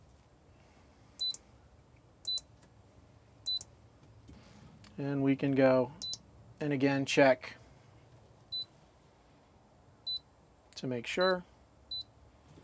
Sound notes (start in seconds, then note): 1.2 beeping; 6.0 beeping